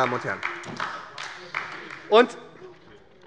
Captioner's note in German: Beifall bei der SPD